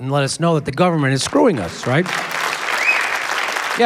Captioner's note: applause